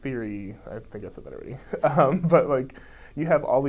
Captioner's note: laughs